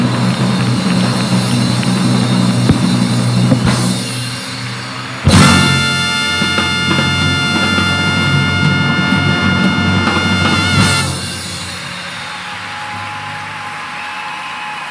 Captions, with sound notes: God bless, thank you so much. Thank you folks, God bless, you're terrific! (audience applauding) (audience cheering)